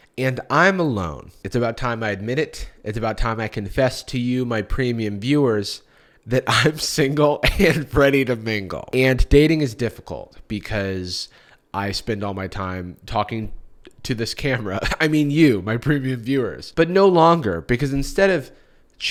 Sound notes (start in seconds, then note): 14.6 chuckles